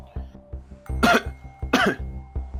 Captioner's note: coughs twice